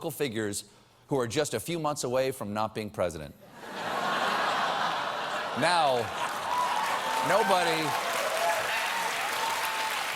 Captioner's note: laughter